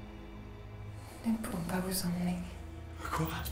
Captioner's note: Ellie speaks in French; speaks in French